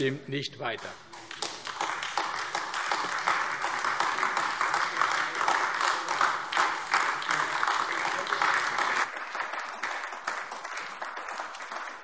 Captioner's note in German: Beifall AfD